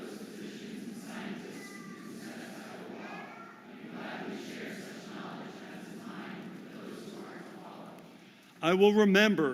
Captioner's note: audience repeats